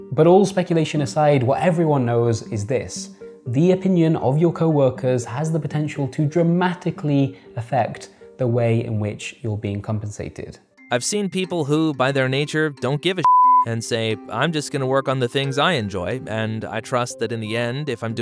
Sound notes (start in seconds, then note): 13.2 beeps